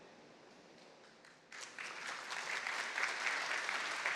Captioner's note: applause